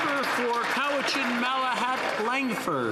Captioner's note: some Applause